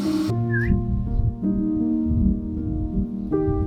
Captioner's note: whistling